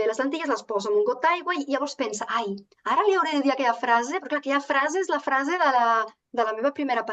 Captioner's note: continues speaking in Catalan